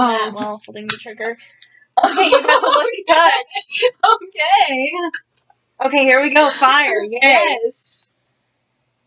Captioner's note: laughs